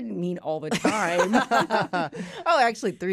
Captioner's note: laughter